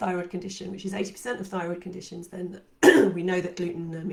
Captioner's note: coughs